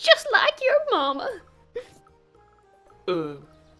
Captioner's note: Demi gasps